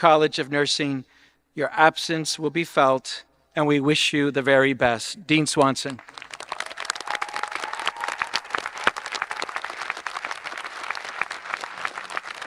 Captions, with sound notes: dean of the College of Nursing. Your absence will be felt and we wish you the very best. Dean Swanson. (applauds) (audience applauding and cheering)